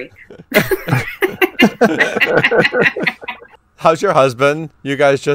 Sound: both laughing

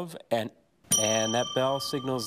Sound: bell dings

